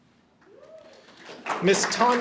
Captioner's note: audience applauds